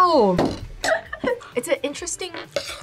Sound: laughs

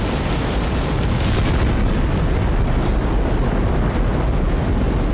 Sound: rocket booming

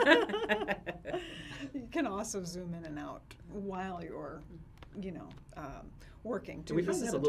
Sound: laughs

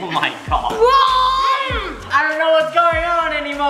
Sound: screams

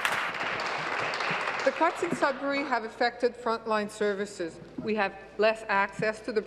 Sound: applause

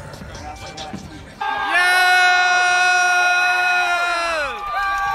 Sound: upbeat hiphop music; students cheering

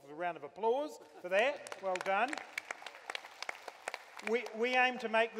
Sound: applause

